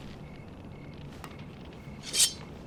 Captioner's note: sword unsheathed